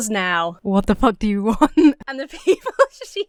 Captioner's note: laughs; breaks into laughter